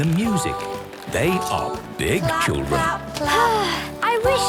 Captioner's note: Belinda sighing